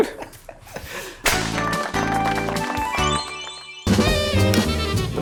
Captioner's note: crowd applauding; upbeat brass jazz music